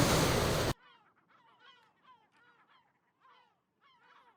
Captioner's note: gulls goosing